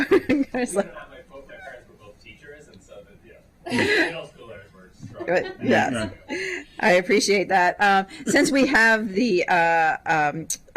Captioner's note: laughter